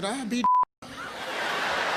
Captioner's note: beeping